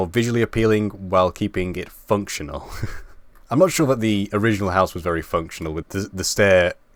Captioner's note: laugh